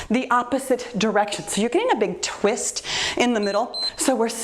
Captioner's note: timer beeps